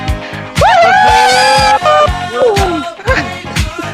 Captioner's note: cheering